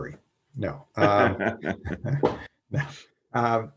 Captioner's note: laughs